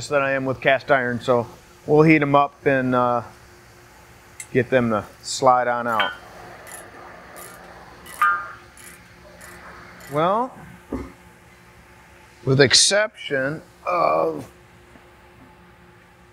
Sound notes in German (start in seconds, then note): 5.9 Metall klirrt; 6.4 Werkzeug klickt